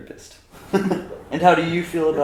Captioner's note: laughter